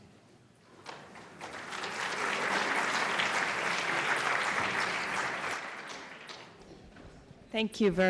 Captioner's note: applause